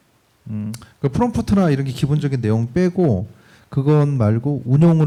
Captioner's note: speaking korean